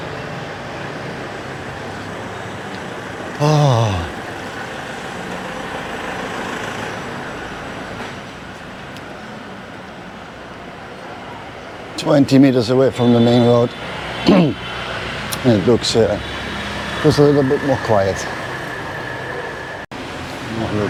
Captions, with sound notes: [sigh] Twenty meters away from the main road and it looks a little bit more quiet.